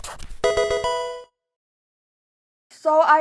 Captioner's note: pen writing; Pokemon game sound